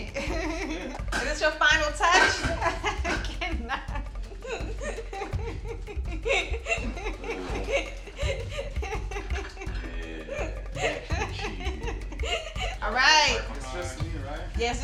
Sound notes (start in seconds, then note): 0.1 giggles; 2.9 laughs